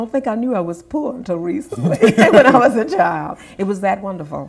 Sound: laughter

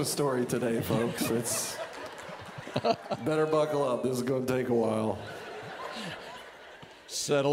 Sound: audience laughing

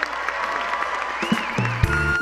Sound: applause

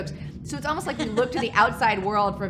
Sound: laughs

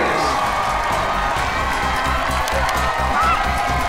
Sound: cheering

